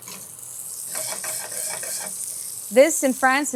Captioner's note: pan sizzling; pan scraping